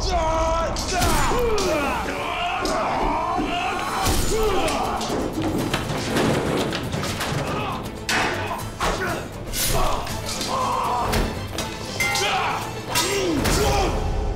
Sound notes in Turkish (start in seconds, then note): 0.0 Haykırma sesi; 6.9 Kılıç sesleri; 6.9 Müzik - Aksiyon